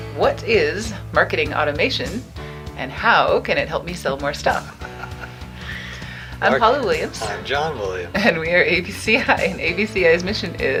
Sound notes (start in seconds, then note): 4.7 laughing